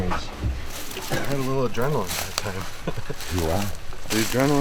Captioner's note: laughs